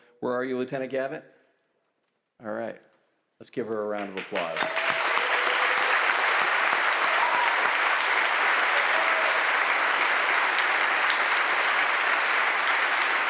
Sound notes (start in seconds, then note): 4.0 audience applauds and cheers